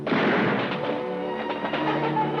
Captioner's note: música emocionante; golpes de arma